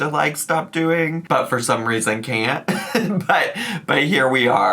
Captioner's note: giggles